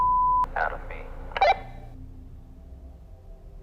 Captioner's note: walkie-talkie blips